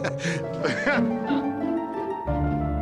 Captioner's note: laughs